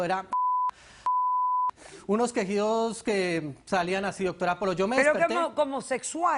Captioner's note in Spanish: Bip